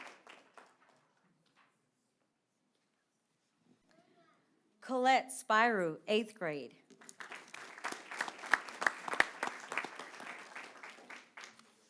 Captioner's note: applause